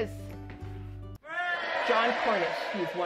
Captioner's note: cheering